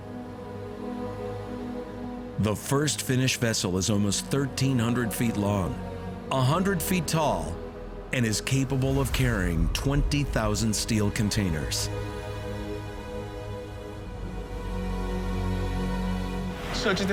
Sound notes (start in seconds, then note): none